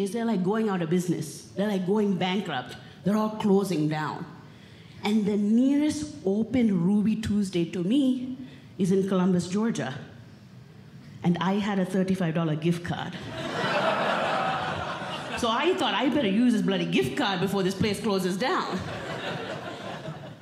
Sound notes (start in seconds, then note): 13.2 audience Laughing; 18.8 audience Laughing